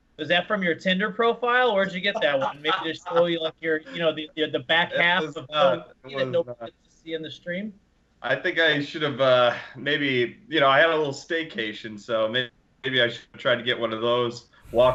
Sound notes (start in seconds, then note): 1.6 laughs